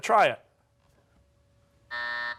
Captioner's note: buzzer